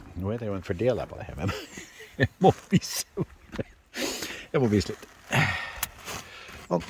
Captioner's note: laughing